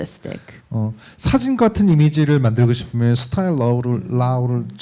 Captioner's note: speaking korean